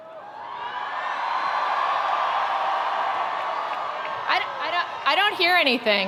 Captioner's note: attendees cheering; attendees applauding